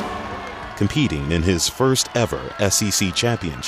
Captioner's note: voiceover